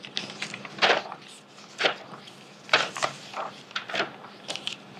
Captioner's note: papers flipping